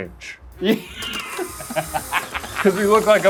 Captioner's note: laughs